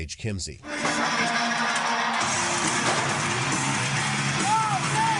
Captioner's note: crowd cheering